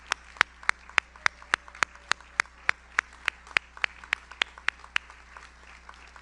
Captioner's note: audience member cheers